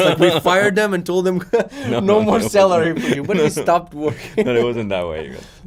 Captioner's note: laughs